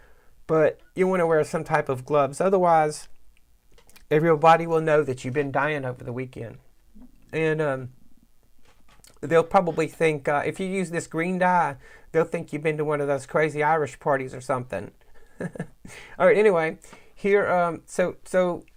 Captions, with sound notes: But you want to wear some type of gloves otherwise, everyobody will know that you've been dying over the weekend and And, um.....they'll probably think, if you use this green dye, they'll think you've been to one of those crazy Irish parties or something. (laughs) Alright anyway here, so, so,